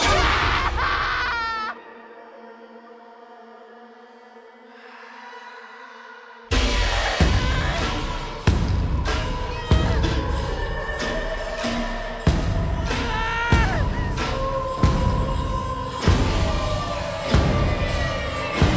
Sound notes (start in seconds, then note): 0.0 Brigit screams; 6.7 dark dramatic music; 13.0 Brigit screaming